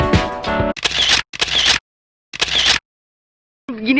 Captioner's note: camera shutter